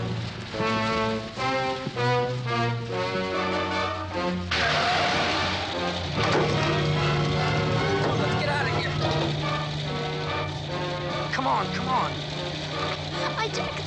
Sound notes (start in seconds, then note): 3.6 tires screech